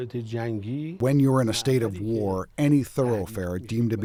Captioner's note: through translator